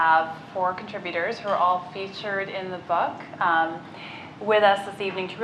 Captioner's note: none